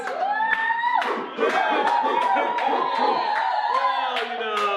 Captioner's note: cheers, applause